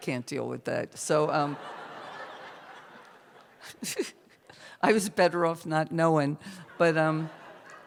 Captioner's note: laughter